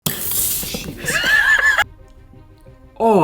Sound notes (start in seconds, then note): 0.0 soda sprays; 1.0 laughing